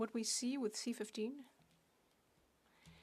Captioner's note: speaking French